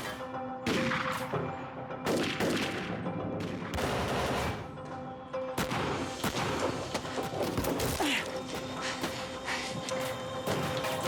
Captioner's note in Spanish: sigue el tiroteo